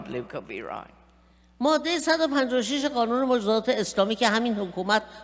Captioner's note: speaking persian